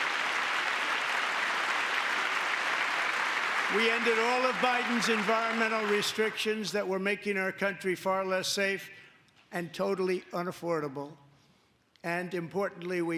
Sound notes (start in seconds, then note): 3.6 applause; 3.6 cheering